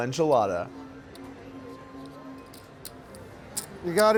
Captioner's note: soft clacking